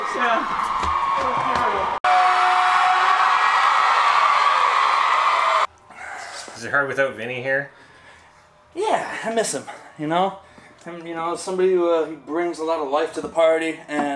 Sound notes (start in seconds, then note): 2.0 cheering